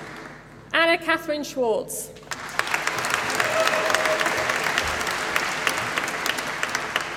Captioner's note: applause